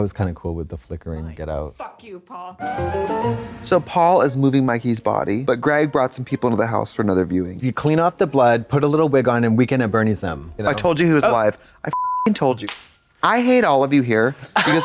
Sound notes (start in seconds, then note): 2.7 bright chime